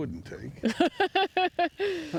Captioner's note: laughing